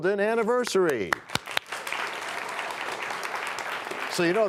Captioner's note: applause